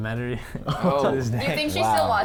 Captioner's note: everybody laughs